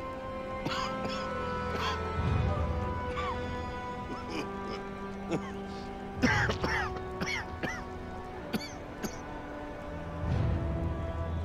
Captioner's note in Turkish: Öksürük sesi